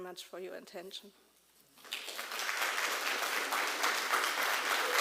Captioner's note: applause